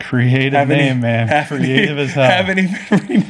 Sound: laughing

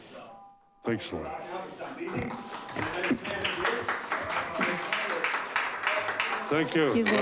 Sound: audience applauding

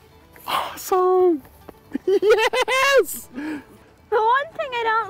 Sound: excited

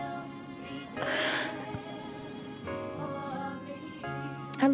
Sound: laughs

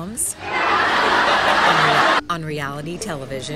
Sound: laugh track

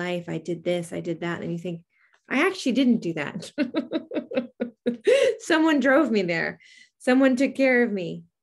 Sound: laughs

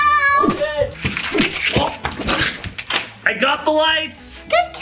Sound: lights whoosh; grunts

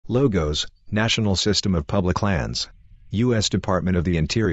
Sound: birds chirping

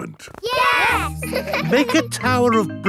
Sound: laughing

